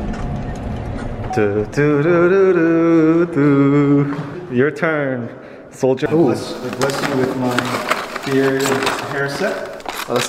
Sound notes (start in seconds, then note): 1.6 humming